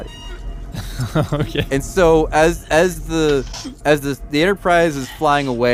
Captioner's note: laughs